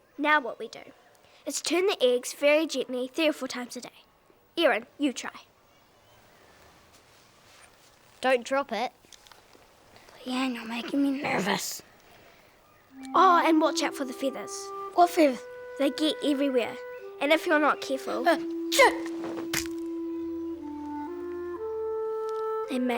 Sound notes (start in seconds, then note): 18.7 sneezes; 18.8 cracking